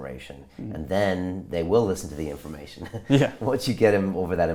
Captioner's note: chuckles